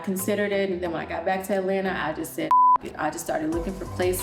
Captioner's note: beep